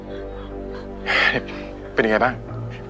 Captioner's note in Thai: เสียงถอนหายใจ